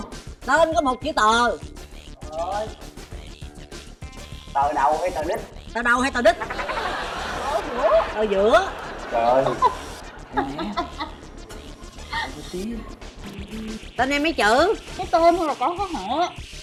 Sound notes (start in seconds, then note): 6.7 laughing; 9.4 the masked girl laughing